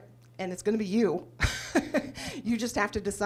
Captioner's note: laughs